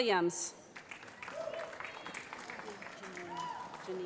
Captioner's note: cheering